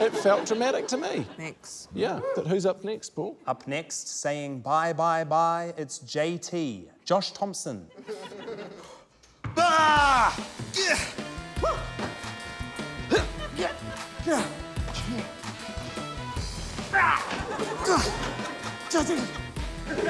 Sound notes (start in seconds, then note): 10.7 yells, grunts; 14.2 grunts, pants; 17.0 laughter